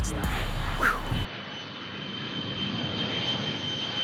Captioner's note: plane engine